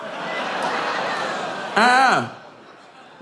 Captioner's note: audience groaning